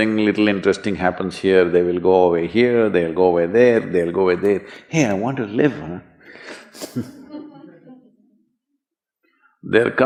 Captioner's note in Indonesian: Sedikit tertawa